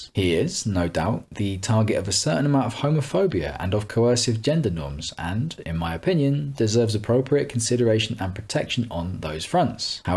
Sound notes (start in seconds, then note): none